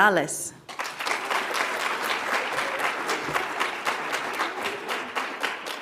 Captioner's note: audience applauds